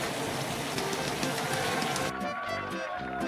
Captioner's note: applause 👏